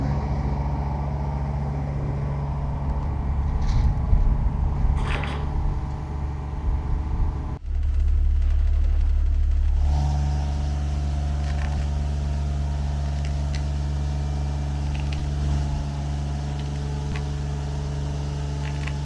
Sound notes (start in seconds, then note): 0.8 machine whirring